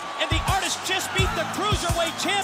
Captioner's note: bell ringing